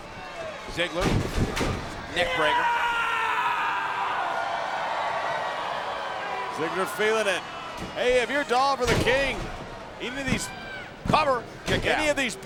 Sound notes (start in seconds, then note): 2.3 Dolph screaming